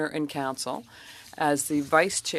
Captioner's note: speaking French